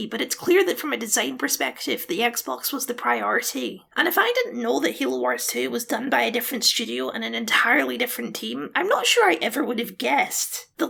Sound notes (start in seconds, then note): none